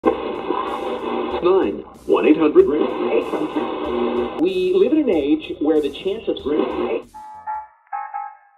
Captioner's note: radio dial scanning, static; big band swing